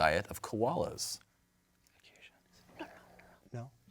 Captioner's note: whispering